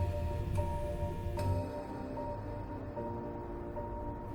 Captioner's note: light winds